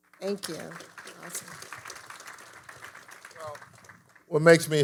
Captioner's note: audience applauding